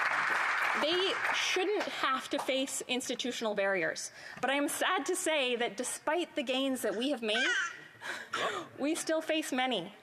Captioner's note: applause